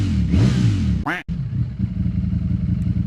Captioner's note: engine revving